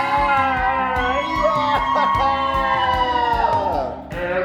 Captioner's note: family cheering